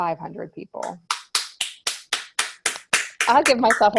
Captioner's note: claps